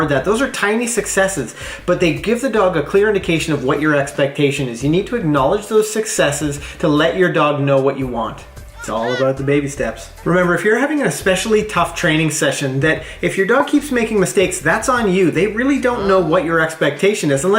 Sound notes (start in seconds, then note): 8.6 baby crying